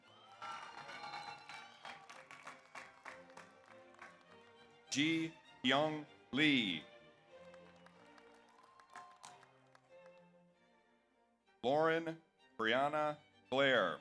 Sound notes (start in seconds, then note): 0.0 audience cheers; 0.0 audience applauds; 7.3 audience applauds; 8.4 audience cheers